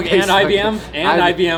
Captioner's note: laughing